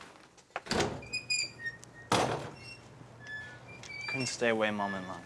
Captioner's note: door slams open